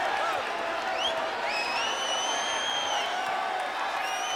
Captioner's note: crowd cheers